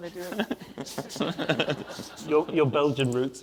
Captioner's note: audience laughs